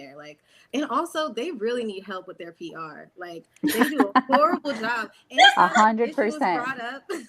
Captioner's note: laughter